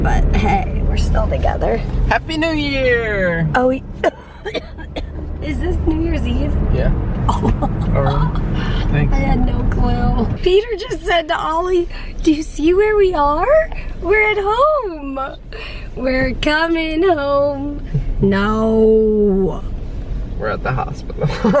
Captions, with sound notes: hey, we're still together. Happy New Year! oh wait (coughs) Is this New Years Eve? Yeah. Oh, I had no clue Peter just said to Ollie, "Do you see where we are? We're home!" (sings)We're comin' home! Nooo! We're at the hospital (laughs)